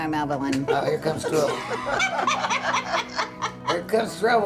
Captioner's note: people laughing